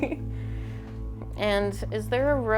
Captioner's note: laughing